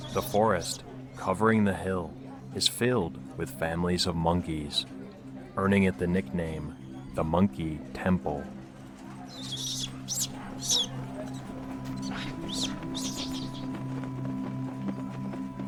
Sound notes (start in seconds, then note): 9.2 monkeys screeching; 9.4 gentle music